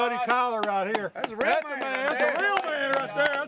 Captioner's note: clapping